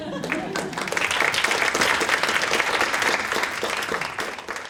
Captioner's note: audience applauds